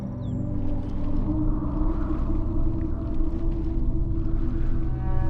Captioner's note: wind whistles